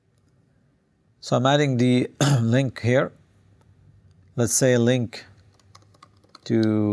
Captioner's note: cough